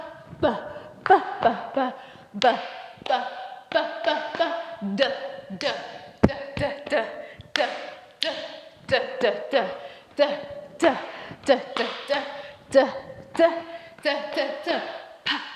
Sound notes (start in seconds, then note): 0.8 vocalises a 'buh' sound in the same rhythm; 7.4 vocalises a 'duh' sound in the same rhythm